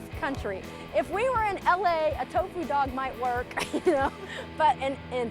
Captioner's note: laughs